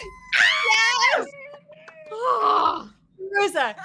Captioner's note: screams